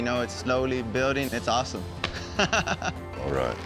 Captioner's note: laughing